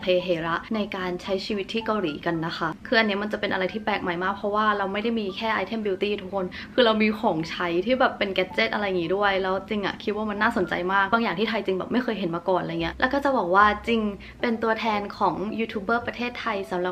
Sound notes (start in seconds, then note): none